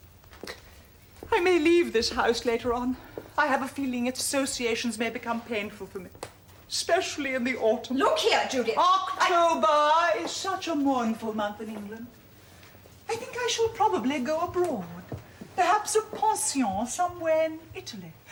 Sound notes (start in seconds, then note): 9.7 JUDITH, shouting her down